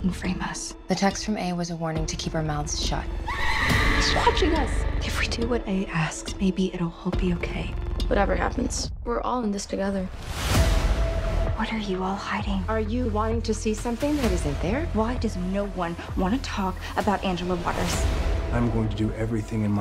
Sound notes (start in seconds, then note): 3.2 screams